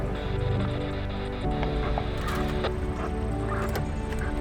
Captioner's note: radio hissing